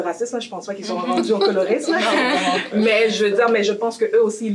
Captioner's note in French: rires